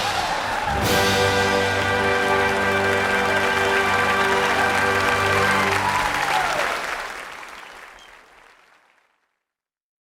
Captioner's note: applause